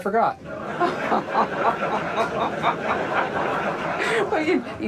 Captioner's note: Joanna and audience laughing